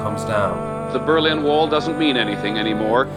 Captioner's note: soundbite of archived recording